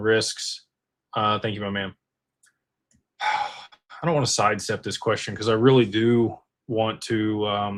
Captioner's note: sighs